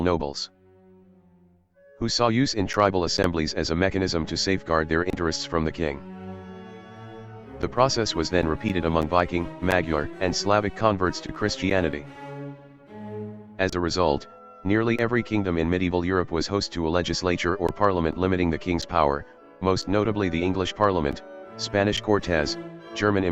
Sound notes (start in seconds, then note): 10.5 Hungarian